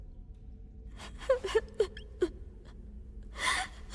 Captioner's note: sobbing quietly